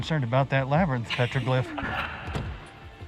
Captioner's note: laughter